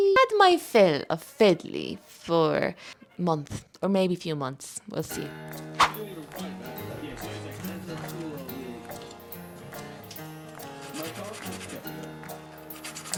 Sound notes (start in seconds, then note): 5.8 CreepCast plays in the distance